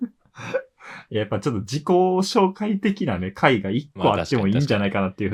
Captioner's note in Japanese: 笑い; 息をのむ音